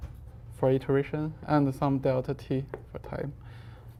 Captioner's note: faintly speaking